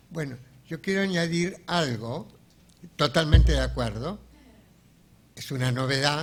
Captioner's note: speaking in a foreign language